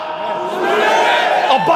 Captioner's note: crowd